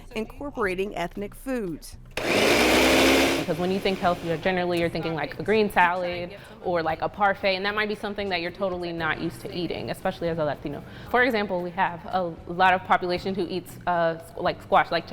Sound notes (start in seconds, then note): 2.2 blender whirring